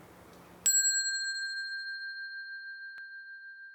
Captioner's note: bell dings